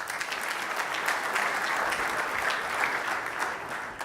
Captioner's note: audience applause